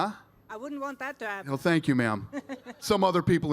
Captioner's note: laughter